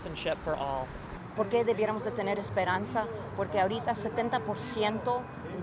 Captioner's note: speaking in foreign language